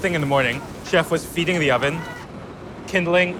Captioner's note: person yelling